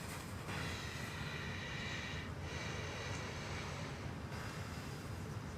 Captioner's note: Billy deeply breathing